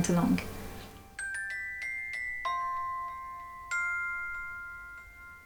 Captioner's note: gently chiming bells